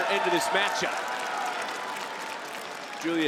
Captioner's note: crowd cheers and applauds